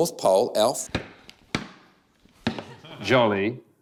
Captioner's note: clunk! clunk! clunk!